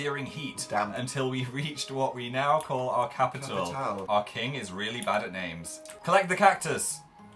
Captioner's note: laughing slightly